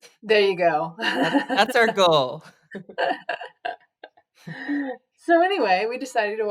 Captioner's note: laughs